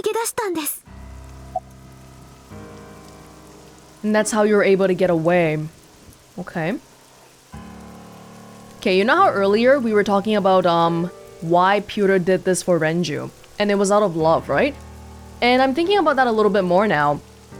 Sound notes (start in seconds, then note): none